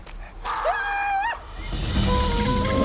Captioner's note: Panther yells; hypnotic flute music